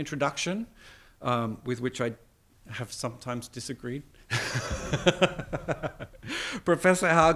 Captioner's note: laughs